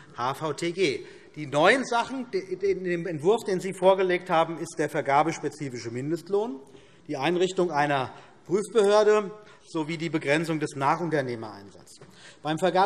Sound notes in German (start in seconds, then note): none